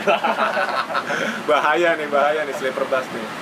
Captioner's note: laugh